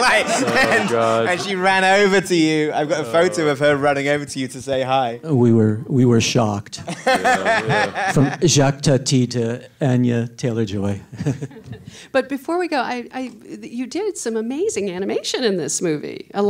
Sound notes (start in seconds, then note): 0.0 all laughing; 6.8 Edgar laughing